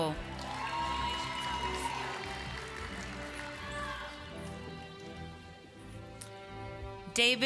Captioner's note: applause